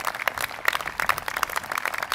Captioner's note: applause